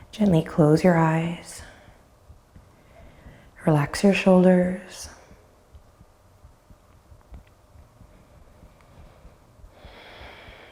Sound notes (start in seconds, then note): none